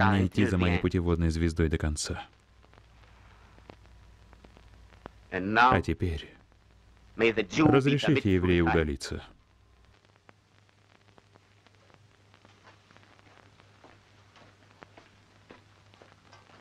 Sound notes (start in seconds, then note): 14.2 floor pattering